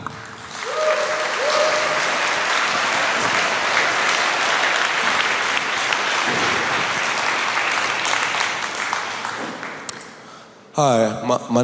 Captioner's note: applause